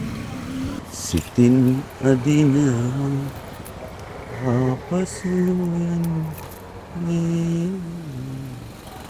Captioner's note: humming a song